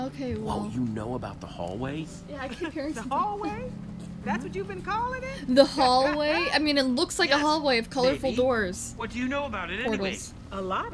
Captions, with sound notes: - Okay wow. Yeah, I keep hearing something. (laughs) - The hallway? I mean it looks like a hallway of colorful doors. - Portals.